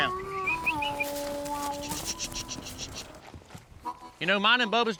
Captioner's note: whistling, calling